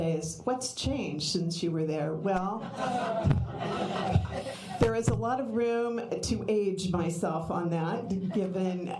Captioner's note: laughter